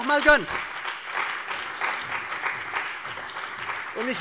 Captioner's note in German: Beifall bei der CDU und dem BÜNDNIS 90/DIE GRÜNEN